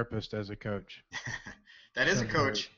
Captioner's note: laughs